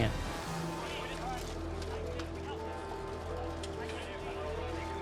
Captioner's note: bells ringing